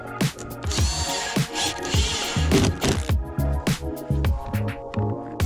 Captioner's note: drill whirring